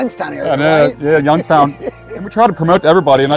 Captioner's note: laughing